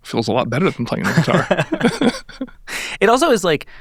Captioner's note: chuckling